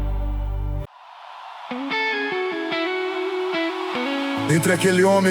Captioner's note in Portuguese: aplausos